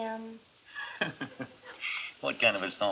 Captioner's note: chuckles